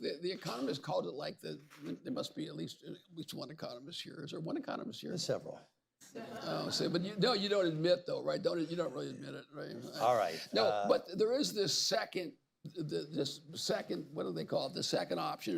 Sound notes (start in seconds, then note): 6.1 laughter